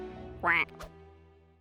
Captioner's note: quack!